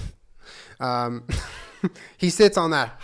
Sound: wheeze

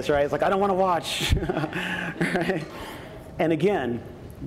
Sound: laughs

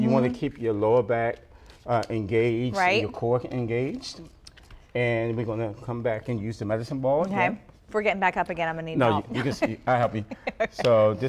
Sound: laughter

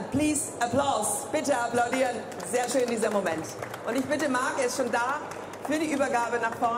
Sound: speaking in foreign language; audience applauds

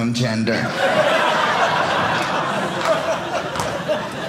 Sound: audience laughing

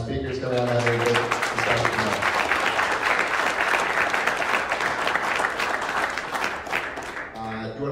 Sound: clapping

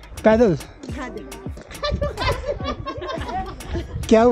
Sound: everyone laughs; laughing again

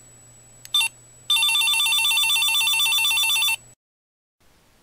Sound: ringing phone sound effect

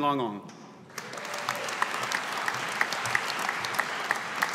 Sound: audience applauding

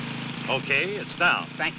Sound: humming subsides

